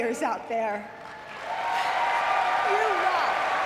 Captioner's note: audience cheering and clapping